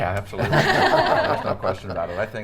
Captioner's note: everyone laughs